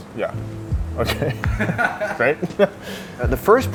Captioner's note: laughs